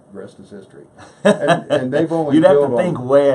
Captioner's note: laughs